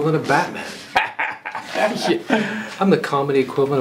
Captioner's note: laughing